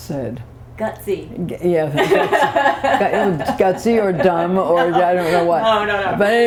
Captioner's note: laughter